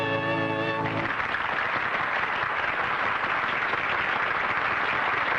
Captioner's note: applause